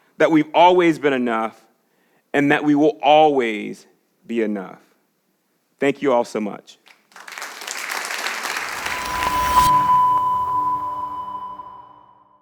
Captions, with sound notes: that we've always been enough and that we will always be enough. Thank you all so much. (audience claps) (cryptic music)